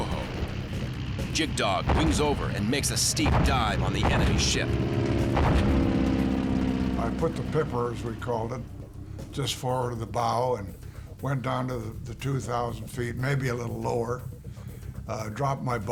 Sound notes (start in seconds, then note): 4.2 engine whirring